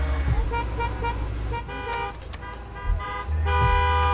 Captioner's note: car hoots